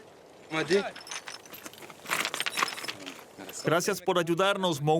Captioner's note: Arabic spoken audio